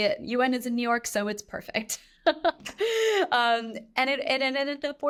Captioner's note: chuckles